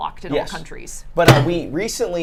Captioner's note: closes microwave